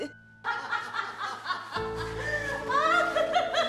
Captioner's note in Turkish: Kahkaha sesleri